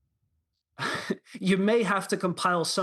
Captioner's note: laughter